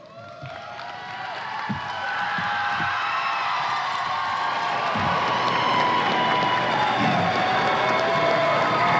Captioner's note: applause and cheers